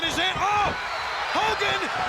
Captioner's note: audience cheers